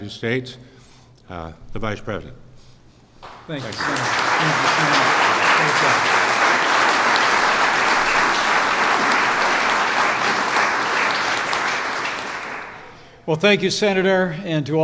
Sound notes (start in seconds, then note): 3.2 applause